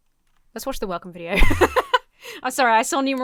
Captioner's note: laughs